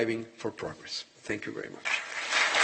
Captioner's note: applause